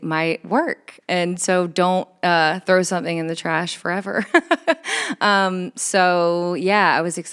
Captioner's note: laughs